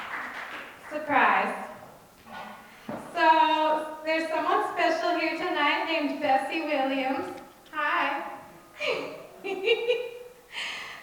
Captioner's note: laughs